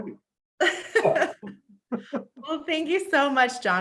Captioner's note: both laugh